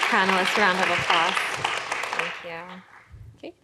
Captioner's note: applause